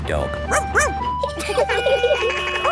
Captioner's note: barks; laughing; sirens sounding